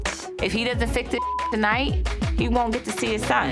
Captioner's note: beep